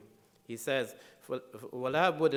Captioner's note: speaking in foreign language